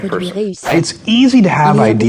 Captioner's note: whoosh